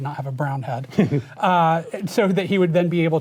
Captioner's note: chuckling